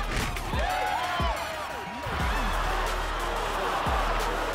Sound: audience cheering

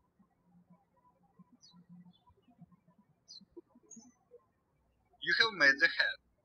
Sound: birds chirping

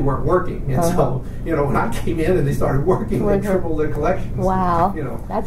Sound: laughs

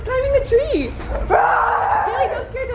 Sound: yelling

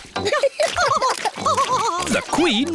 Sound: both laughing

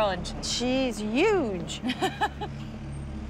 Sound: laughs

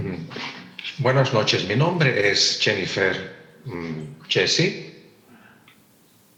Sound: translator speaking in Spanish

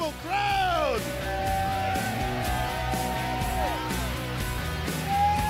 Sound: crowd applauds

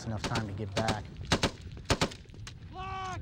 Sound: rapid gunfire; voiceover

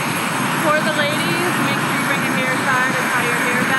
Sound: none

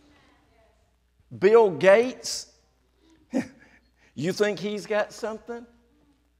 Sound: chuckles

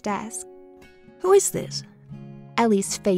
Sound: voiceover

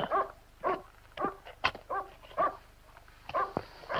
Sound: barking in distance

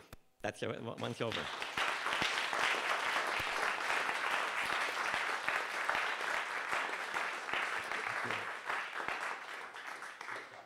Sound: applause

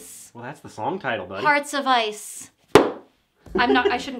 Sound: book thumping; laughing

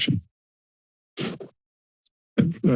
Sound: silence

